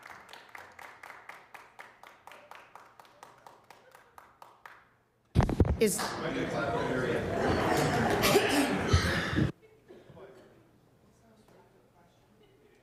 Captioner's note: applause